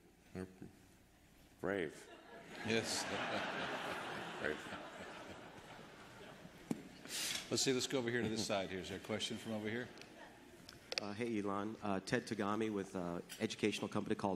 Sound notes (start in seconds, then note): 8.1 laughter